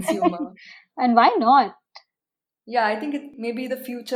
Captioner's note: laughs